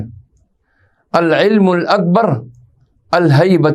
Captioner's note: arabic